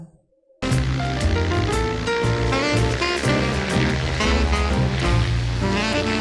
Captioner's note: upbeat music; plane whirs